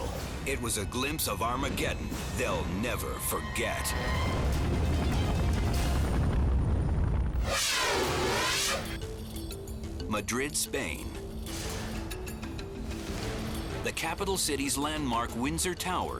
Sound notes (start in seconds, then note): 4.0 fire roaring; 7.3 scene swooshing